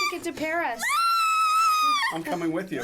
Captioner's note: squealing